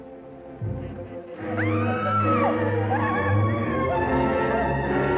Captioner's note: screaming